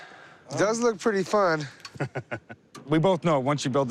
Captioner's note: laughs